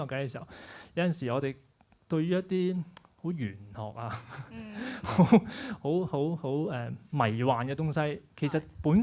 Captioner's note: laughs